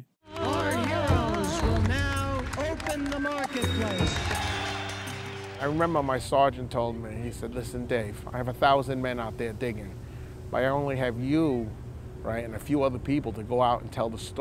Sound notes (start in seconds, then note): 4.0 clapping